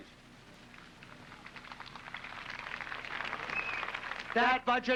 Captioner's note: applauding